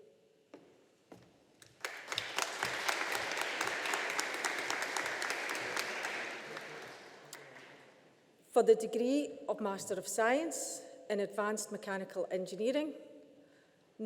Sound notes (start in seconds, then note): 1.6 audience applauding